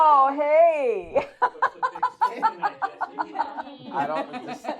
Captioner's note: laughing